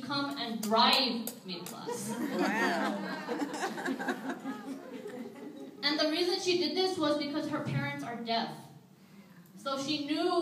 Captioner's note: audience laughs